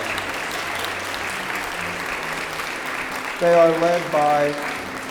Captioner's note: applause